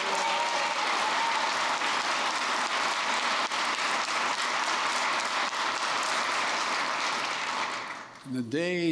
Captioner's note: applause